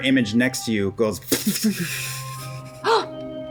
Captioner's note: sizzling; gasps